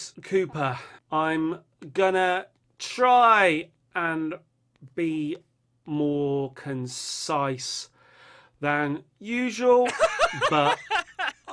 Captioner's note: laughter